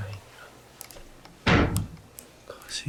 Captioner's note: the sound of closing the shoe closet